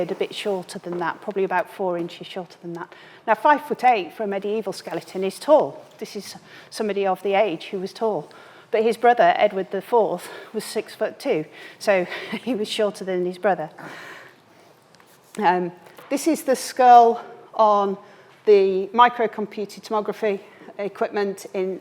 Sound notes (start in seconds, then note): 12.0 chuckles